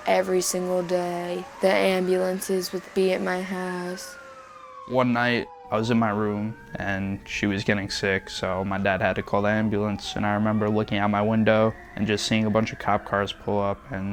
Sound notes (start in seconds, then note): 6.3 siren wailing